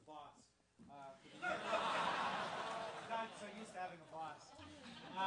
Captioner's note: laugh